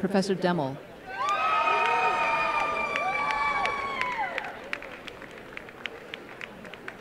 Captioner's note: cheering and applause